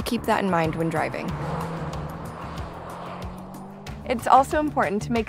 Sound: car driving

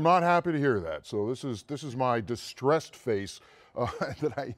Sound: laughs

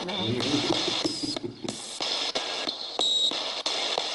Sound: laughing

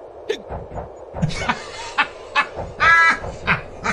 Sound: laughing

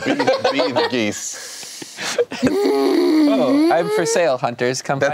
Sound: laughing

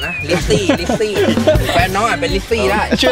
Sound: laughs

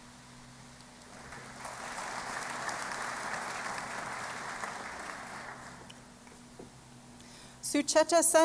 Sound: applause

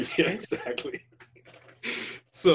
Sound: laughs

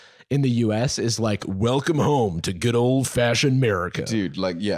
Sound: deep voice

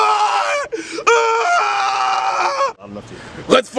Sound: Yuji screams

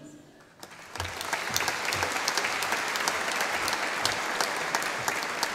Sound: audience applauding

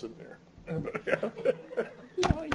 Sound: laughs

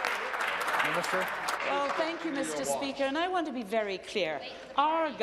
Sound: applause

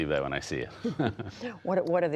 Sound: laughter

